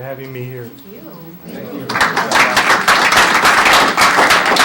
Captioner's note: applause